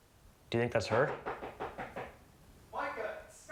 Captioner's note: door knock continues